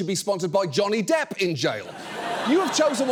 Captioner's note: audience laughing